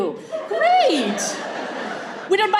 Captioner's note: group laughs